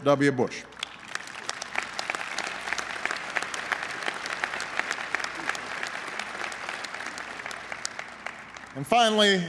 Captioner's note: applause